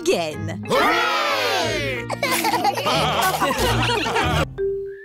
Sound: laughter

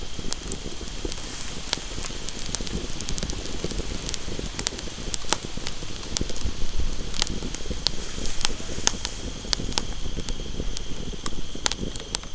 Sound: fire crackling

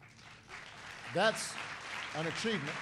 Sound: applause

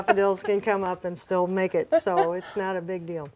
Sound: laughing

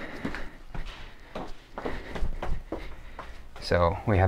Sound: footsteps

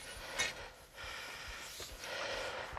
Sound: he breathes heavily

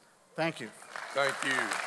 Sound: audience applauds

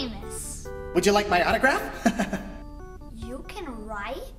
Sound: laughs

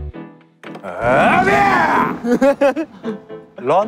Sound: loud shout

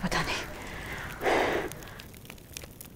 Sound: Sakshi exhales

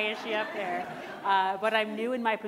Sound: audience laughing

